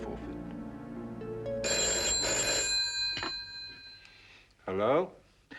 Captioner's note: phone ringing